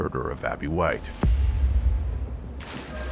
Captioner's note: water splashing